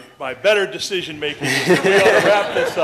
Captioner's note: laughter